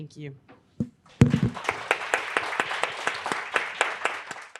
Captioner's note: group applauding